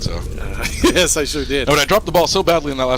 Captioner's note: laughing